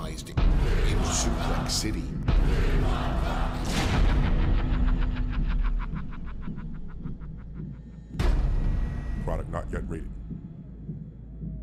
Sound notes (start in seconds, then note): 6.2 evil laughter